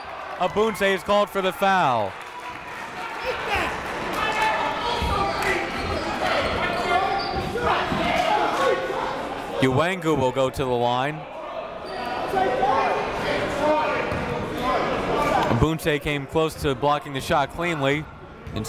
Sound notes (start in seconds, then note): 2.9 crowd talking; 3.0 coaches yelling